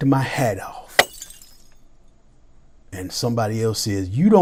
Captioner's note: glass crushes